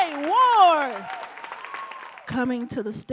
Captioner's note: audience cheering and applauding